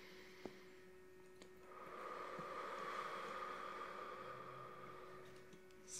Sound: breaths In; breaths Out

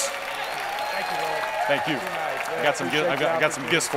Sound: cheering and applause

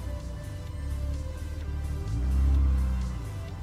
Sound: engine Revving

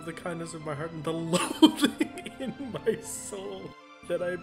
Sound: laughs

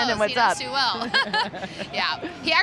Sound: laughter

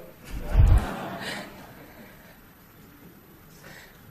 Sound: audience laughs

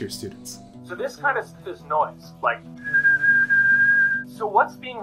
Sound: whistling

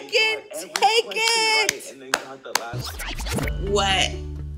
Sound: claps

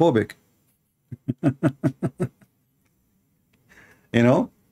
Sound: Ketawa

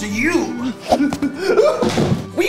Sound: manly scream

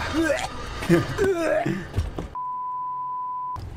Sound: haha

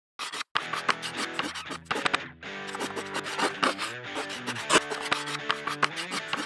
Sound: chalk scribbling; rhythmic rock music

